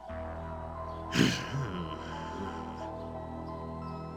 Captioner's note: growling